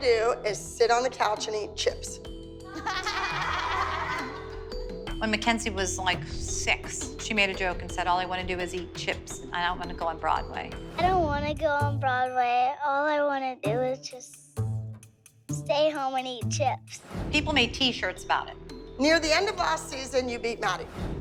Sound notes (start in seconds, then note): 2.6 laughter